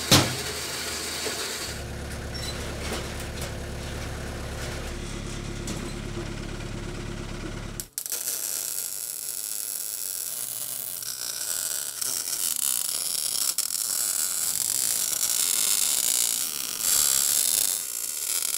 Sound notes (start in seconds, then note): 0.0 slams; 2.9 garage door creaking; 8.2 sparks flickering; 15.0 welding torch buzzing